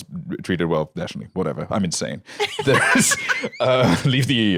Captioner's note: laughs